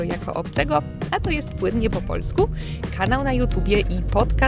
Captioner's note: fluent in Polish